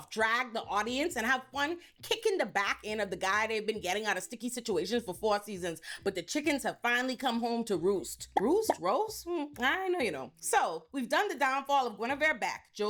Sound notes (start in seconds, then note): none